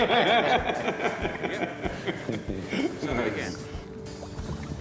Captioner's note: laughter